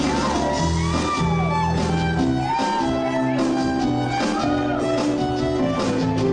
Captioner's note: audience cheers